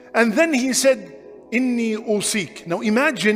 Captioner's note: Arabic